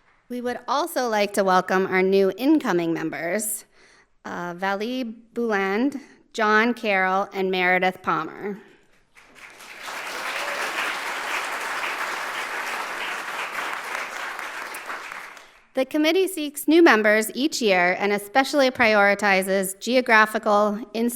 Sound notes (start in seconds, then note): 9.1 audience applauding